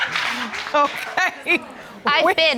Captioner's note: chuckling